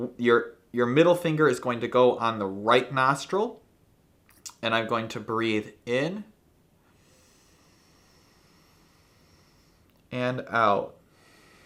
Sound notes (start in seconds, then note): 6.8 inhales slowly